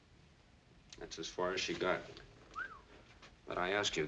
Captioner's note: soft whistle